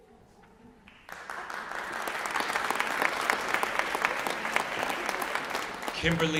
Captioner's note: applause